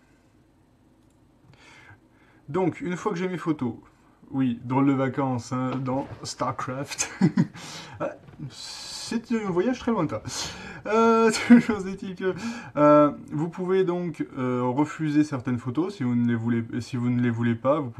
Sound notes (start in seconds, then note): 11.2 hummm